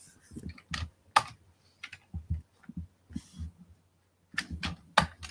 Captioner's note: keyboard clacking